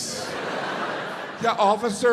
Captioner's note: audience laughs